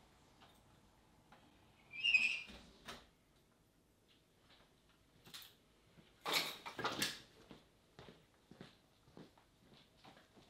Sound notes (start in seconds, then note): 1.9 door squeaks; 6.2 objects clatter